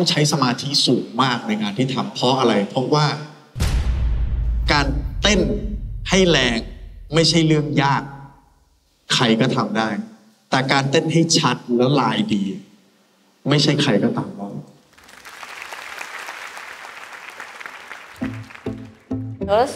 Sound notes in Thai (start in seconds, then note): 14.9 ปรบมือ